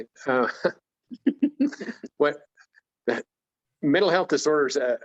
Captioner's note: both laughing